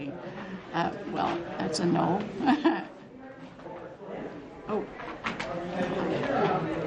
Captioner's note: laughter